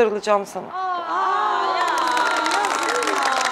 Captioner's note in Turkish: seyirci alkışlar